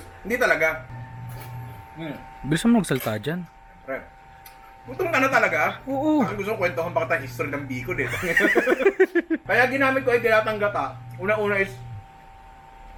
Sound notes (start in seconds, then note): 8.0 laughter